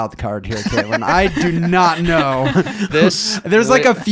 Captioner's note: laughing